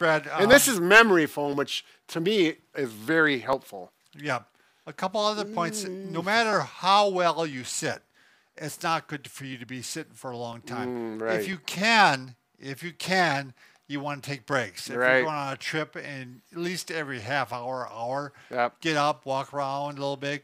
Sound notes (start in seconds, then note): 5.4 hums; 10.6 hums agreeably